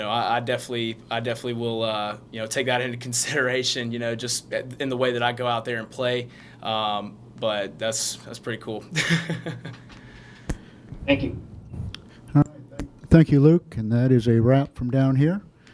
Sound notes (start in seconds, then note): 9.0 laughs